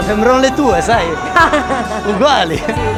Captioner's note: laughs